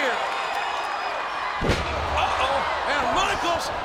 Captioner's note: audience cheering